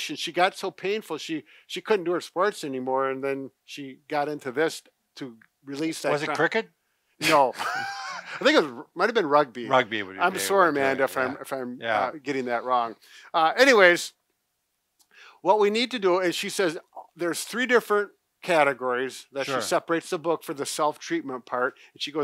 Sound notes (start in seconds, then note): 7.2 laughs